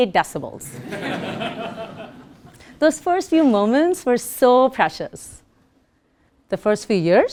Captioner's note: laugh